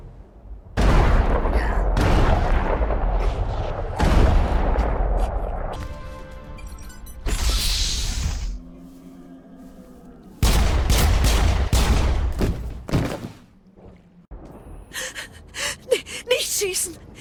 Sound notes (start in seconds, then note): 3.9 bang; 10.4 bang